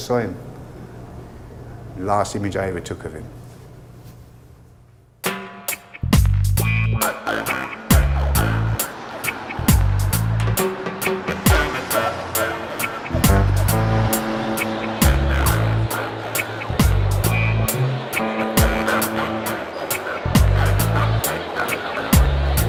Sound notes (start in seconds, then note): 5.1 reggae music starts; 9.1 cars driving; 14.8 crowd of people talking to each other; 22.5 reggae music resolves